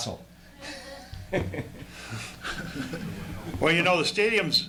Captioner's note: laughter